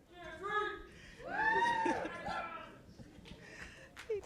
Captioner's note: cheers and applause